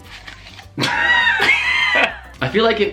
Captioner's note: laughs